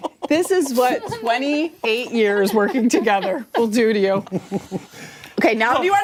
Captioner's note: laughter